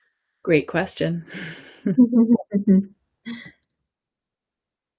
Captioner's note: people laughing